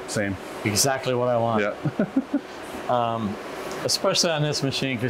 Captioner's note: giggles